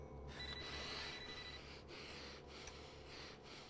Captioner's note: phone ringing